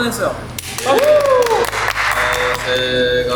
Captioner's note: clap